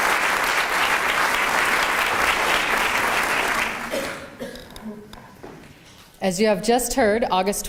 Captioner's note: applause